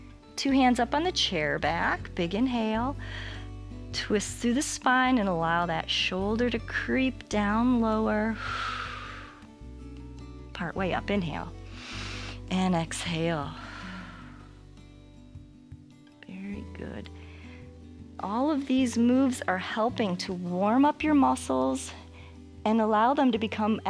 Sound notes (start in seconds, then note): 8.3 exhales; 11.6 exhales; 11.7 inhales